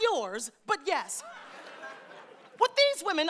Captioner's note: audience laughing